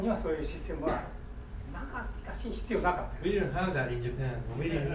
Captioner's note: speaking in foreign language; coughing